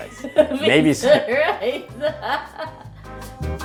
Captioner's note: laughing